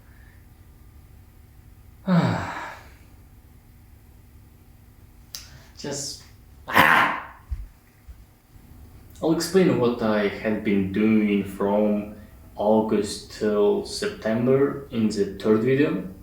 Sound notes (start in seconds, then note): 2.0 sighs; 6.7 screams out of frustration